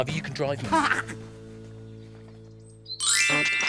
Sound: Iver laughs; quirky music

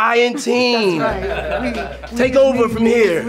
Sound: associates laughing

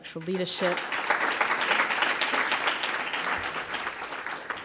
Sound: applause

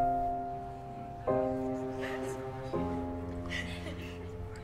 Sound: muffled laughter

